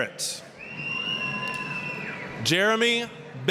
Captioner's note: applause, cheering